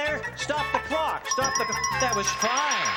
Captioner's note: bell ringing